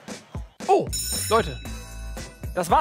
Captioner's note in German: Schulglocke läutet